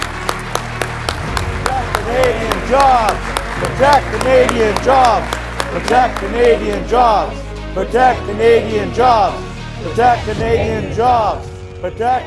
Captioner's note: applause; chanting